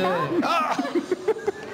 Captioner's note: laughter